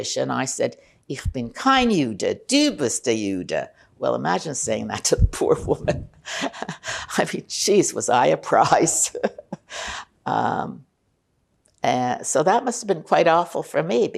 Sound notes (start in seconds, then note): 6.3 laughing